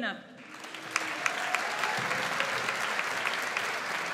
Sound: audience applauds

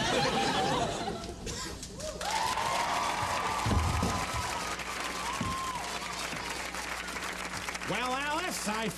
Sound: applause

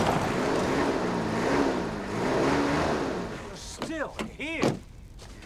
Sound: engine revving

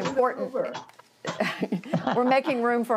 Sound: laughter

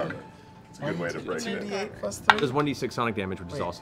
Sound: none

